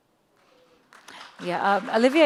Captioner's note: audience applauds